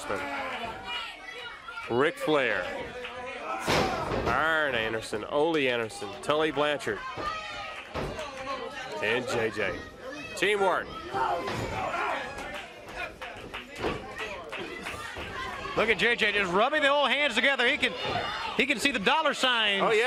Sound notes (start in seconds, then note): 10.4 crowd cheering